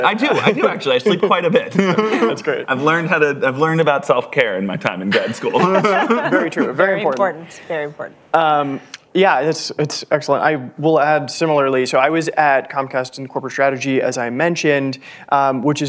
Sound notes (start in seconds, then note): 0.0 all laughing; 5.0 laughter